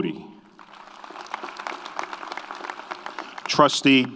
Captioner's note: audience applauds